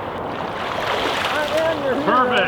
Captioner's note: splashing